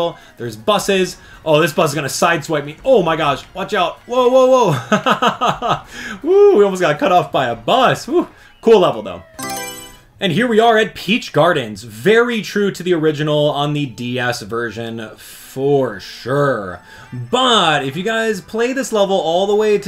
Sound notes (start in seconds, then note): 4.9 laughs; 9.3 Mario Selection Sound